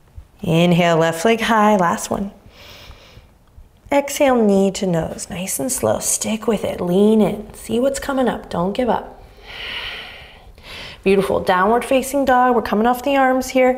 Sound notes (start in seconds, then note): 2.4 inhaling deeply; 9.2 exhaling deeply